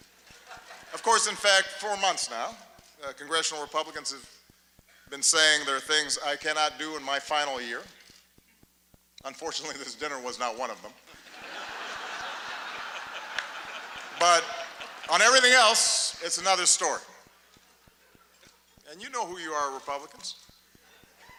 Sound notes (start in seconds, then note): 0.3 laughter; 11.1 laughter